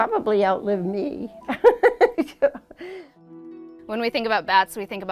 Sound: laughing

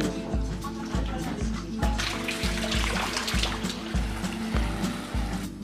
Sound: water running

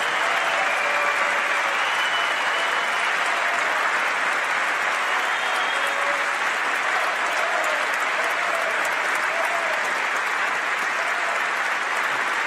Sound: applause

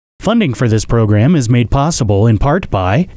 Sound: voiceover

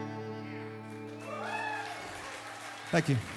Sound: cheers, applause

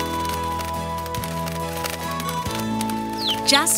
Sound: flute music; wings flapping

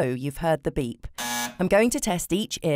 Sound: buzzing

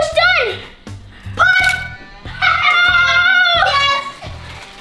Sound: laughs; yells

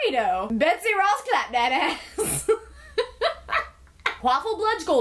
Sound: laughs

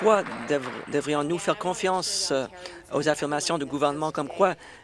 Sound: applause

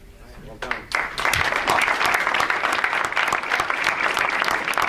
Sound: audience applauds

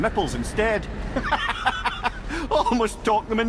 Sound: laughing

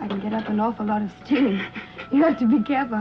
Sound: Peter chuckling

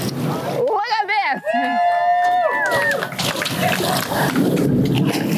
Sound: crowd cheers

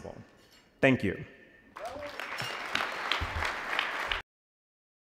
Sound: applause

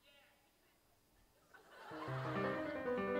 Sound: laughter

